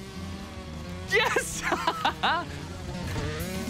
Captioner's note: laughs